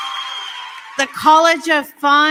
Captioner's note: applause